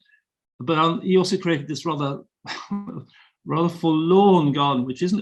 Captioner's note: chuckling